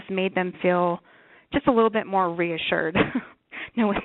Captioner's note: chuckles